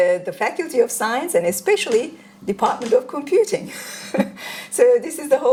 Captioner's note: chuckles